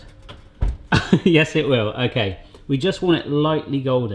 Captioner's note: laughs